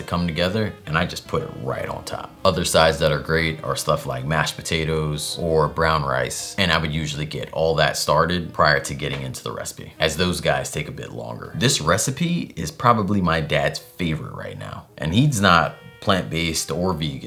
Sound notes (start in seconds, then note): none